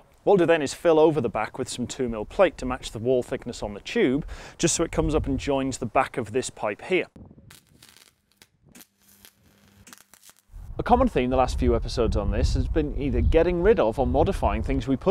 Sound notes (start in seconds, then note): 7.4 welding crackle